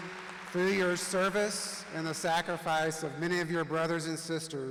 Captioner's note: applause